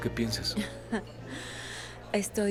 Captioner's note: Risa y suspiro